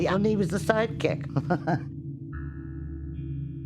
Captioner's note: Penny laughs